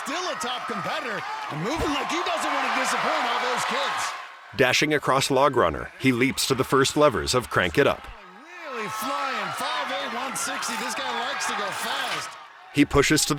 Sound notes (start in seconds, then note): 2.5 cheering